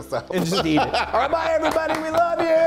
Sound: laugh

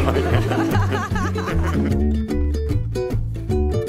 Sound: laughs; mom and Dad laughing; bright music

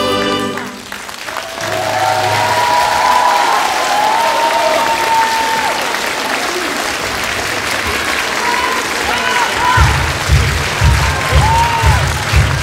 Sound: applause

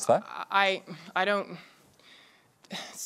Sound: sighs

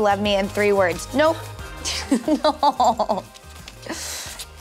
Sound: laughter

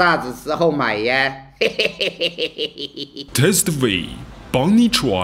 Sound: laugh

